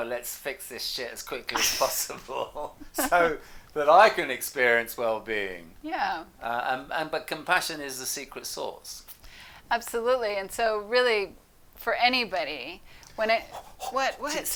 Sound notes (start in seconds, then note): 1.5 laughs